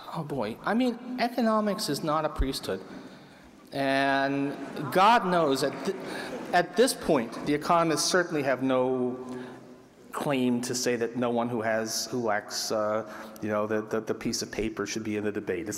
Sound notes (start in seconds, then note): 5.9 laughter